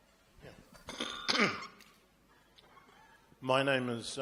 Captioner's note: clears throat